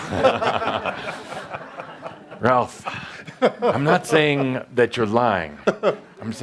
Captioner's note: laughter